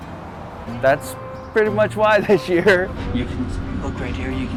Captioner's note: chuckles